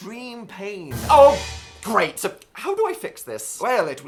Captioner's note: horror noise